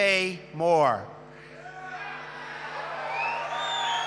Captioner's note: applause